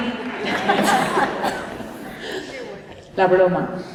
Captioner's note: laughter